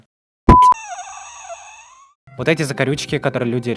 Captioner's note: sounds of excruciating pain